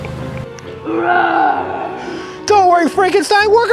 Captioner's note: Frankenstein roars